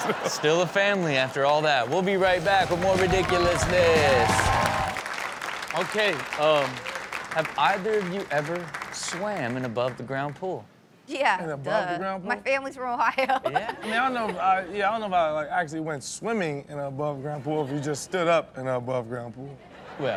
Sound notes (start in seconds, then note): 0.0 laughs; 3.9 audience cheers; 3.9 upbeat rock music; 5.2 applause; 13.5 laughs